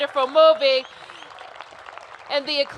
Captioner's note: cheers and applause